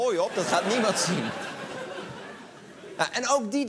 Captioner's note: laughter